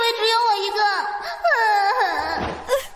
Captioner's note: sobbing